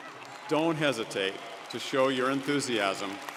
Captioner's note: audience applauding